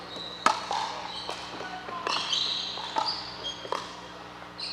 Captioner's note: ball bouncing